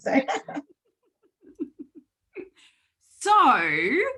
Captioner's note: laughing